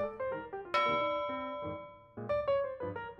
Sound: ding

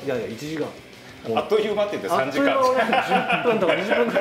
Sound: laughs

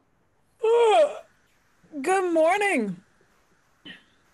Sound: yawns

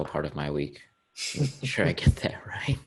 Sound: laughing

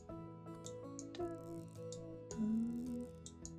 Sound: background sound humming

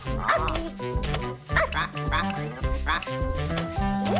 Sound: jazzy music; barking

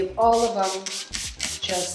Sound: bottle squirting

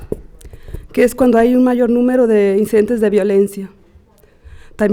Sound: speaking Spanish

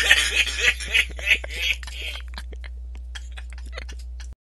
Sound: laughs too

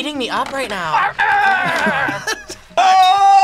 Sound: React laughs; grumbles

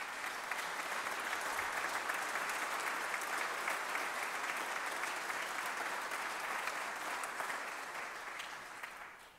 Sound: applause

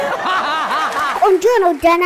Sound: laughter

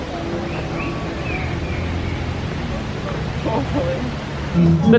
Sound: birds chirping

